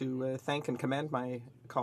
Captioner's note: speaking french